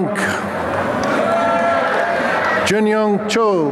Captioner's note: applause and cheering